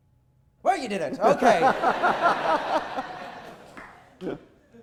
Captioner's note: audience laughter